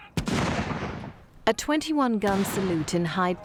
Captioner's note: cannon fires